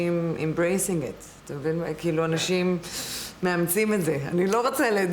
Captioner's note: in Hebrew